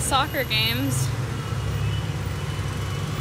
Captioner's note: horde of crazy honking motorcycles going down the street